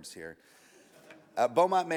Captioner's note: audience laughs